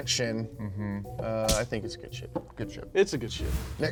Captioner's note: punch thuds